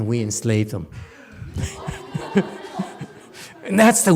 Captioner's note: laughs, audience laughs